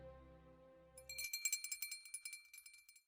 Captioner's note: bell ringing